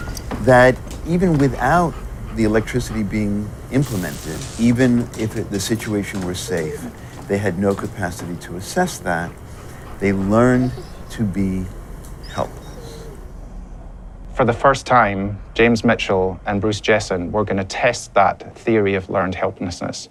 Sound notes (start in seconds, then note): 12.1 dog whines softly